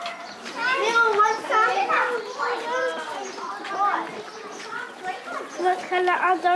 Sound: children talking noisily

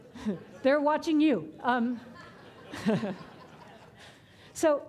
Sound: audience laughing

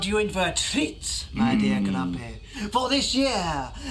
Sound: grumpy groans

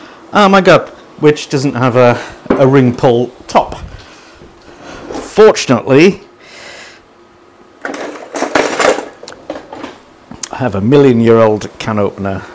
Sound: rattle, clatter in drawer

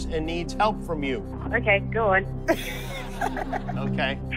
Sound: laughs

